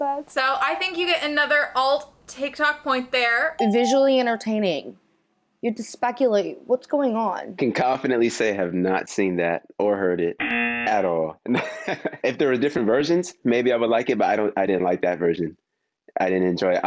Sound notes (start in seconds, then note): 11.6 laughs